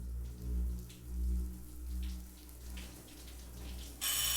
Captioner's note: shower running